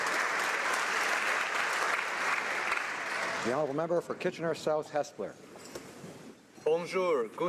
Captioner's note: applause